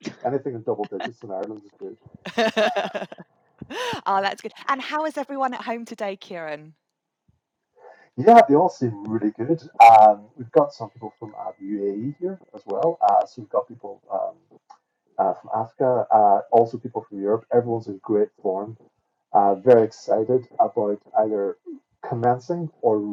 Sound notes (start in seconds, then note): 2.2 chuckling